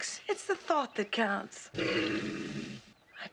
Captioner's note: sink clogging